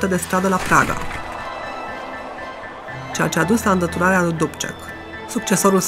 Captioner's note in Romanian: oameni protestând